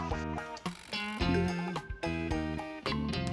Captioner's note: computer chimes